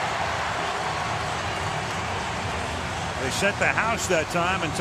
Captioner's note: cheering